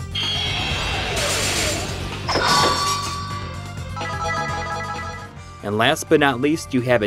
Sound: game audio

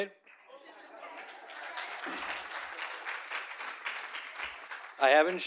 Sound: audience applauding

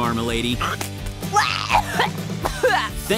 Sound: choking

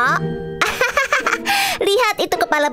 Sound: laughs loudly

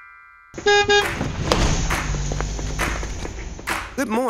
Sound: horn beeping

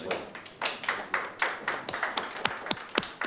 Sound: clapping

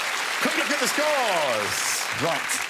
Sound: audience applause

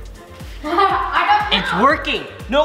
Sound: laughs

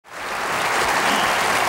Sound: audience applauding

